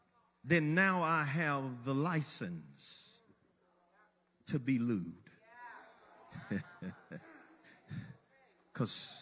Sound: chuckles

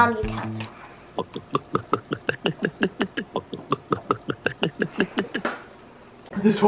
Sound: gulping noises

